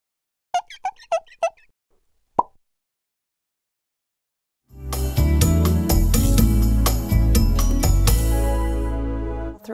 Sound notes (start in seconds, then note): 0.6 squeaking; 2.4 pop